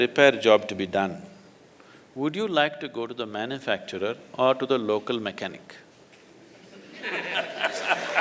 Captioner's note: laughter/Applause